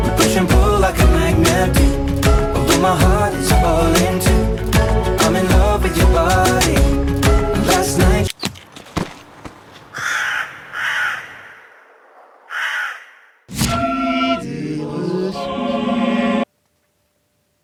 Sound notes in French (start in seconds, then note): 8.4 Tir; 9.8 Cri de corbeau